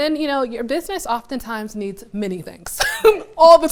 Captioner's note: laughs